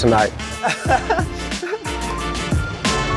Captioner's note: chuckles; upbeat music